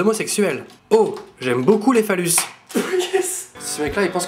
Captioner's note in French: rire bizarre